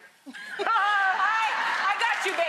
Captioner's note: laughter